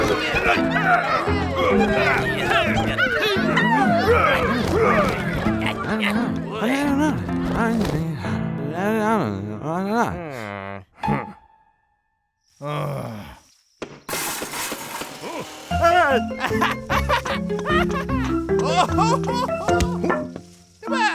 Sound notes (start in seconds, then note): 0.0 grunting; 10.5 officials groan; 14.1 construction clatter; 16.8 laughing